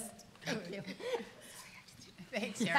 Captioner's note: both talking and laughing